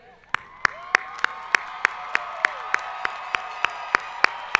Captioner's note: audience applauding